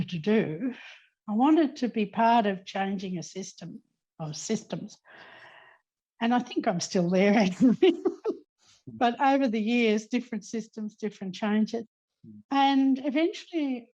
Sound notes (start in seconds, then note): 8.3 laughing